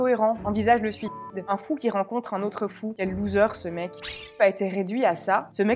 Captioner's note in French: bip